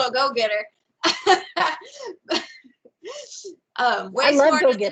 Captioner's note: laughs